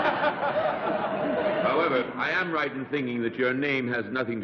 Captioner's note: laughter